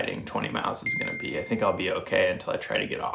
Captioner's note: bell dings